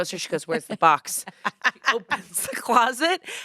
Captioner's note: laughs